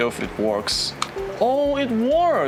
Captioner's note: clicks and windows ding